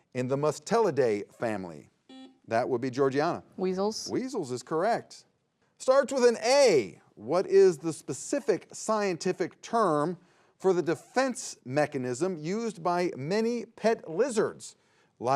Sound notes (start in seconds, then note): 2.1 buzzer beeps